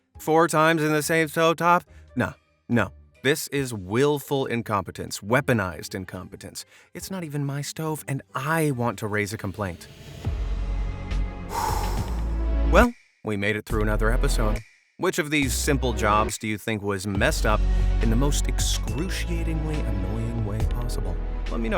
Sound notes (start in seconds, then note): 9.9 gentle thoughtful music; 11.4 exhales